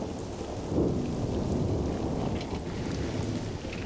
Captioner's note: thunder rumbles